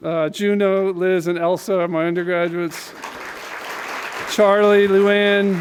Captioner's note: applause